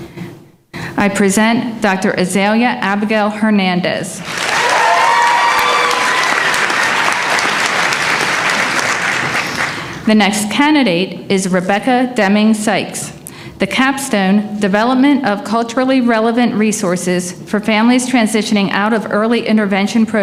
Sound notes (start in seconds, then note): 4.2 applause